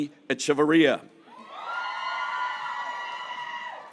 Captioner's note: graduates cheering